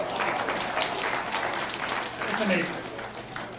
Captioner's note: applause